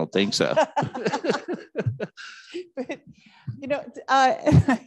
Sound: both laughing

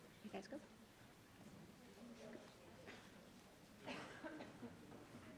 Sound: attendees chattering

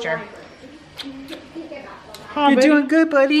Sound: smooches

